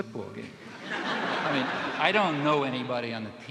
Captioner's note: audience laughing